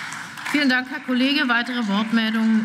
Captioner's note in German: Beifall